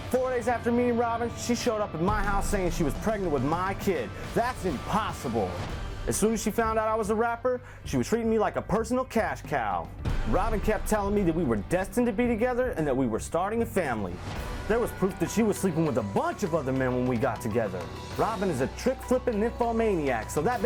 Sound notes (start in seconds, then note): none